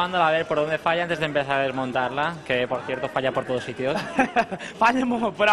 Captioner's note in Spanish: risas